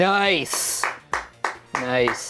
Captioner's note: crew applauds